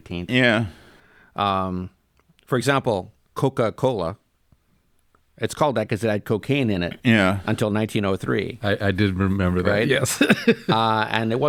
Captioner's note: laughs